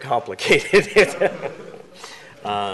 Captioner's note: laughter